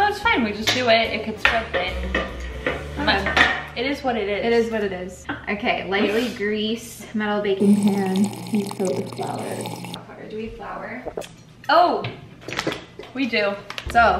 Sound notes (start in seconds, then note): 7.6 sipping sounds